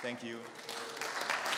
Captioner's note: applause